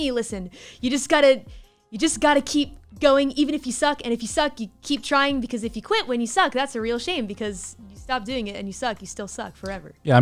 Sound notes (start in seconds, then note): none